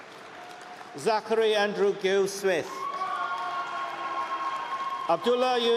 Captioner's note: cheering